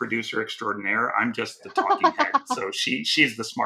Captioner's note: laughing